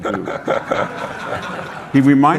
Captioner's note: audience laughing